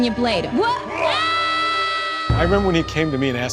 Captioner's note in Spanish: Grita